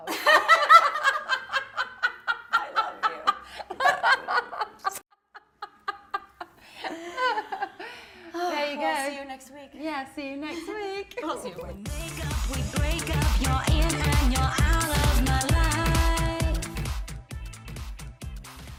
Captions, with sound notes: (laughing) I love you (laughing) [Laughter] - There you go - I will see you next week - Yeah see you next week